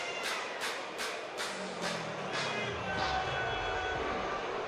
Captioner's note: crowd chatter